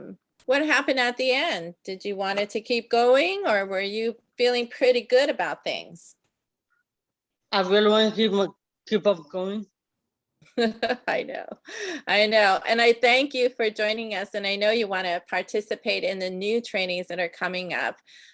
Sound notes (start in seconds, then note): 10.7 laughing